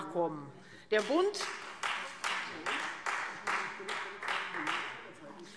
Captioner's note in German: Beifall Freie Demokraten